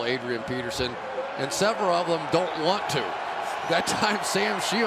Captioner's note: crowd cheering